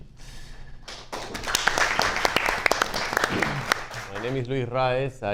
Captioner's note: audience applauds